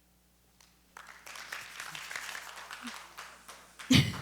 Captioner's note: applause